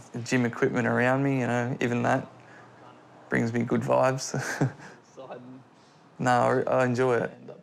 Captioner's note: chuckles